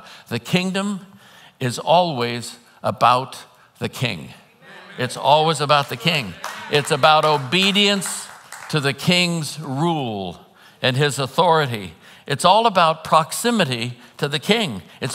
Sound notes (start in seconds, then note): 4.7 congregants applauding